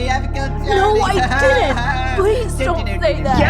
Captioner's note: taunting snickers